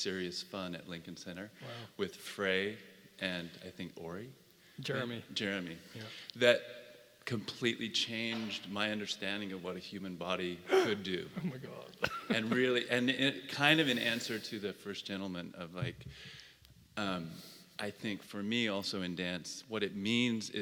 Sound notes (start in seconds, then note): 12.0 laugh